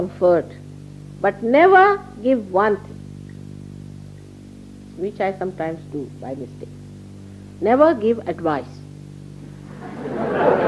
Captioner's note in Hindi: laughter; हँसी